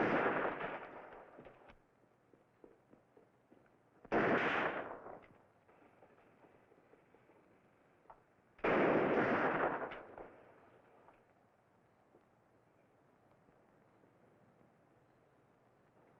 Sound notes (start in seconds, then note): 0.0 gunshot bangs; 8.6 gunshot bang